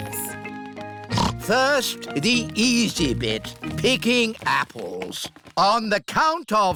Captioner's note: snorts